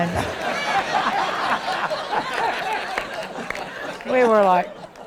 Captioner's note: attendees laughing